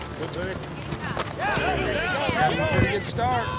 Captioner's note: flag whips; all shouting